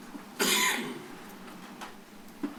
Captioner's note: coughing